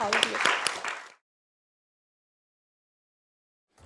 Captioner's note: applause